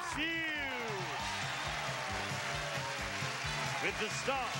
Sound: cheers and applause

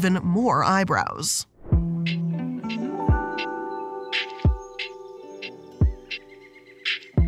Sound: relaxing music; birds calling

